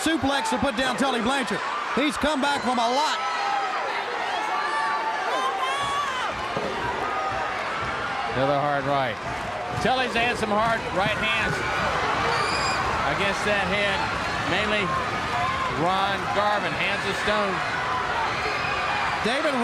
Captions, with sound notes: FROM A LOT. >> [CROWD CHEERING] >> [CROWD CHATTER] >> ANOTHER HARD RIGHT. >> [CROWD CHEERING] >> TULLY'S HAD SOME HARD RIGHT HANDS. >> [CROWD CHEERING] >> I GUESS THAT HAD MAINLY, RON GARVIN, HANDS OF STONE. >> DAVID, RIGHT THERE BLANCHARD